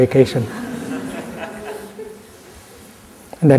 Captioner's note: laughter